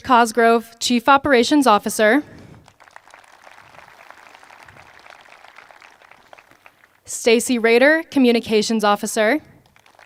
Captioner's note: applause; applause